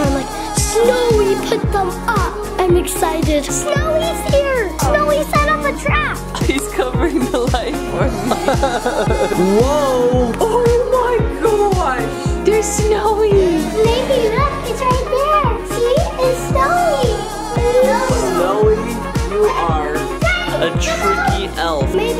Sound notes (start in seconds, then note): 8.6 laughing